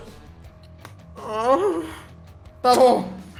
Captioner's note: frustrated moan